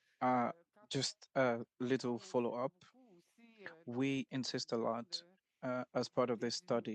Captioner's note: speaking French